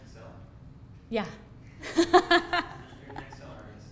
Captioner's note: laughs